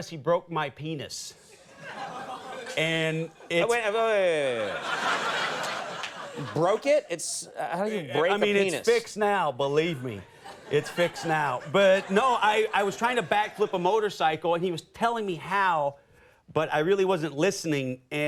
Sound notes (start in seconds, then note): 1.5 audience laughing; 5.0 audience laughs